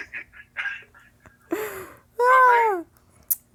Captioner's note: laughs